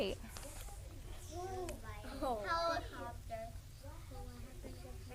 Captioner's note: multiple students talking